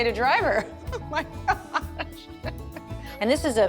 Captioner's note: laughing